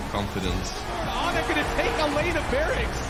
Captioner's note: crowd continues cheering